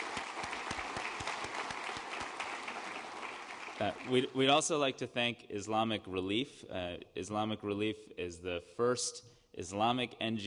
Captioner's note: applause